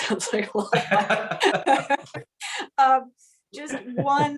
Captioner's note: laughter